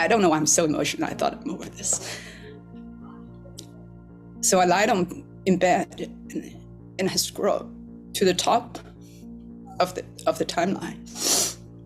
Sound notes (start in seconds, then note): 6.5 voice breaking; 11.1 sniffles